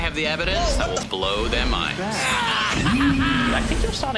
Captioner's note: screams